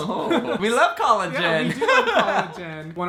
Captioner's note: laughing